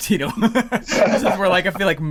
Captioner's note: laughs